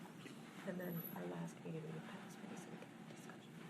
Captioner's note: speaking faintly